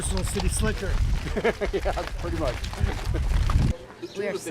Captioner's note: laughs